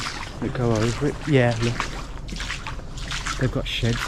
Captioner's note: water sloshing